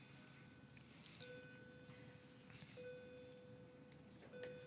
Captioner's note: dinging